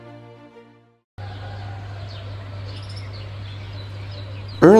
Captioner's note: birds chirping